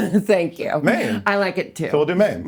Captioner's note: laughing